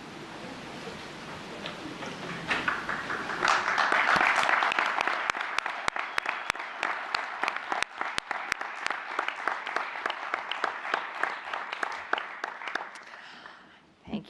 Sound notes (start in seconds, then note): 2.1 applause; 2.2 audience laughs